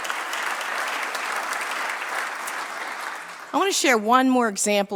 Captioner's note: applause